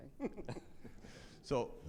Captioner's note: all laugh